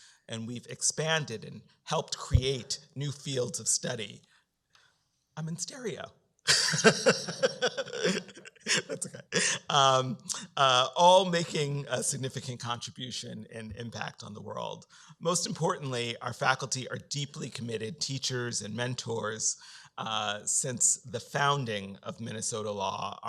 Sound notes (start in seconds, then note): 6.5 laughs